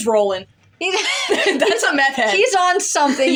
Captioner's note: laugh